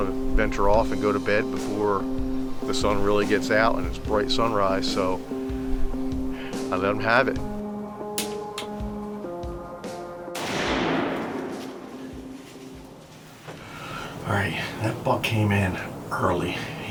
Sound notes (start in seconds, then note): 8.2 clicks; 10.3 gun fires